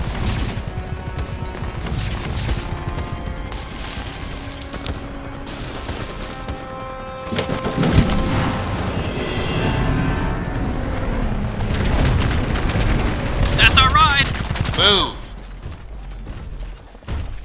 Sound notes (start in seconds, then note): 5.6 muffled static